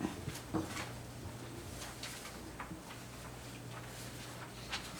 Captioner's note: documents shuffling